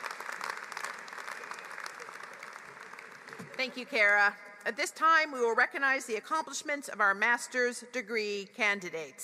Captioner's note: applause